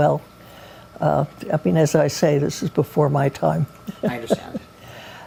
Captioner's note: laughs